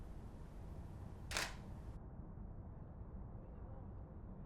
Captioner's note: camera clicking